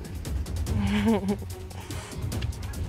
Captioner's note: chuckles